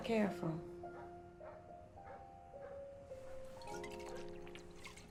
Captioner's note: dog barking in distance